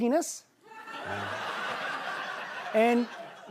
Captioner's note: laughter